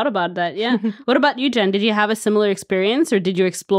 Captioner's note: chuckling